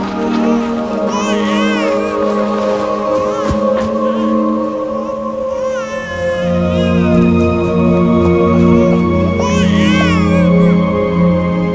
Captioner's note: crying